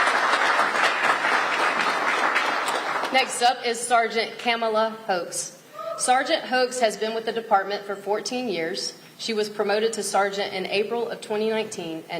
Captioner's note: applause